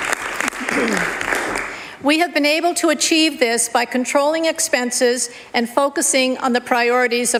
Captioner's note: applause